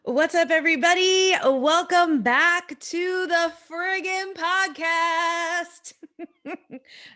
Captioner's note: laughing